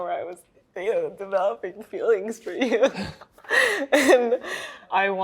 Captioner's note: laughing